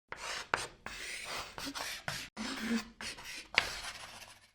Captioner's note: chalk scratching